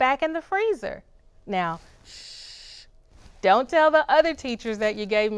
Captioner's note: shushes